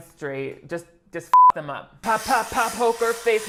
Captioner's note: beep